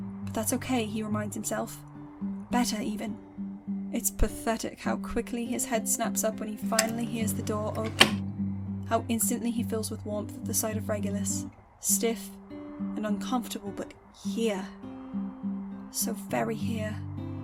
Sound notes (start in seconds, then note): 7.2 door clicks, opening